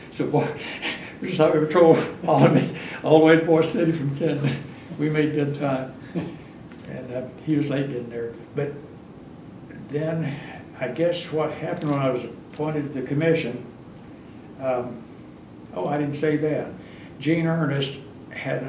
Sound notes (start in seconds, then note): 6.0 laughs